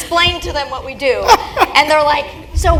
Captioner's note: laugh